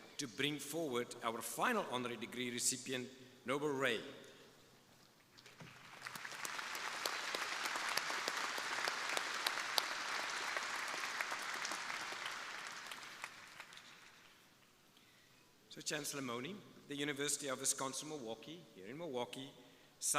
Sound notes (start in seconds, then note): 5.4 crowd applauding